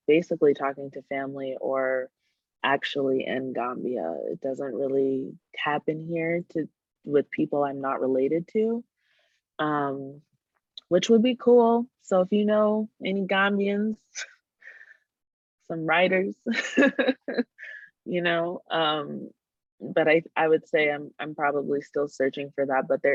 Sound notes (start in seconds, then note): 16.5 laughter